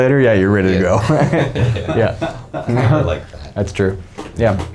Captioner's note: men laughing